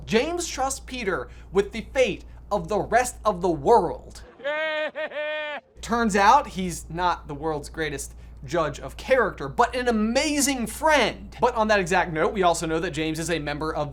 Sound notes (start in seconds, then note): 4.2 Voldemort cackling